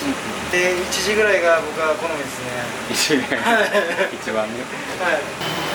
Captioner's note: laughs